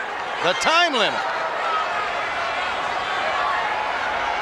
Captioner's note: crowd shout